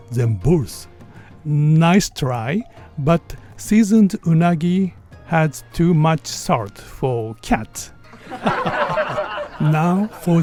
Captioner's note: haha